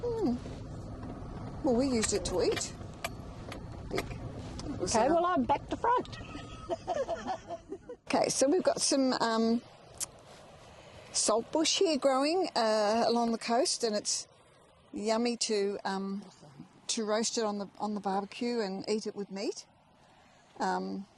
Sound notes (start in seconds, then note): 6.1 laughing